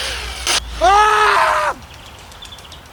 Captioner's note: screams in fear